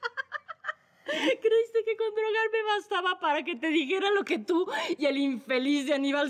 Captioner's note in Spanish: Risas